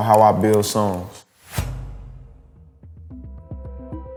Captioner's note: air whooshing; ambient music